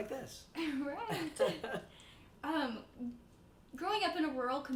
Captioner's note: chuckles